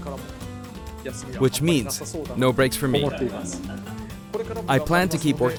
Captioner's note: chuckles